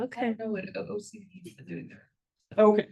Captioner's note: speaks faintly